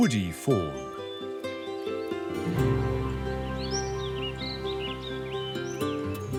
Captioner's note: birds chirping; upbeat music